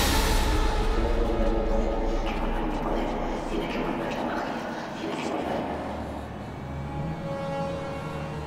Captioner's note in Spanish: Habla en latín